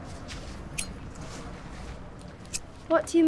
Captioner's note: lighter flicks